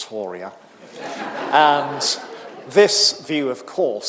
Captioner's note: audience laughing